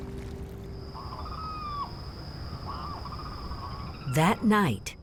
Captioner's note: crickets chirping, wildlife calling